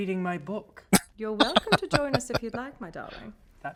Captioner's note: laughing